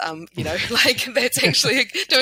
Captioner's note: laughing